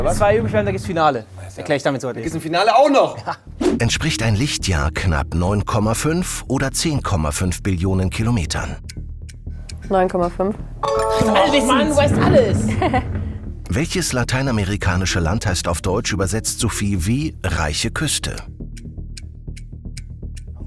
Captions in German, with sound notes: Zwei, dann gibt's Finale. Erkläre ich dann. Ein Finale auch noch? - Ja. 9,5. (Klingeln) Du weißt alles. (Kurzes Lachen) (Ticken, spannungsvolle Musik)